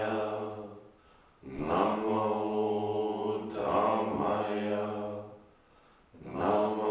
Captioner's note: chanting in unison